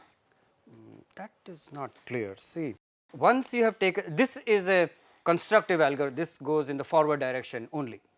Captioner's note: hm